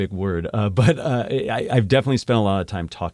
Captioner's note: laugh